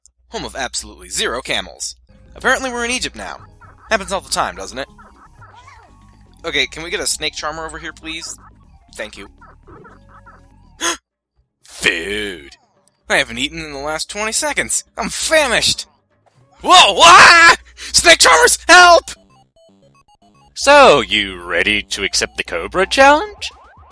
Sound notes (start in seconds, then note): 9.6 burps; 10.6 gasps